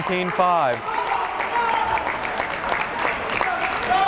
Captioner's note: crowd cheering